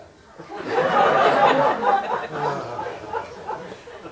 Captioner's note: laughter